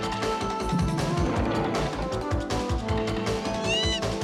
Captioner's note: lion roaring; chimpanzee yelling